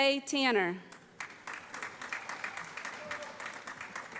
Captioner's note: applause